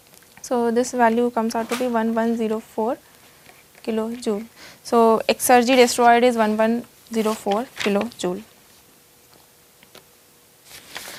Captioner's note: flipping pages